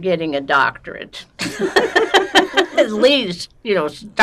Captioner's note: laughing